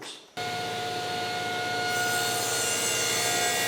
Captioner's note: saw whirring